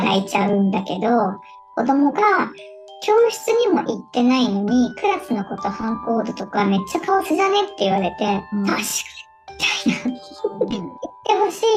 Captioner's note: laughs